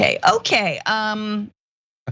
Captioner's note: laugh